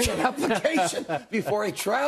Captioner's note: laughter